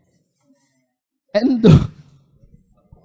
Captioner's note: laughs